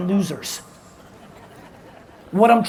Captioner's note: audience laughs